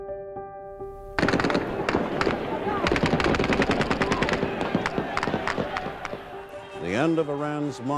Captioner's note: soundbite of archived recording